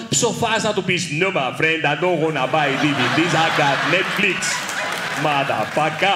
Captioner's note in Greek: με προφορά